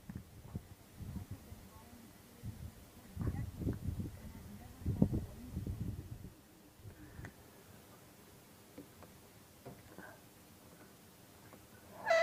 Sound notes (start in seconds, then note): 3.3 light wind, distant talking sounds